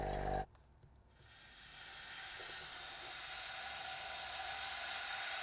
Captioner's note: steam hissing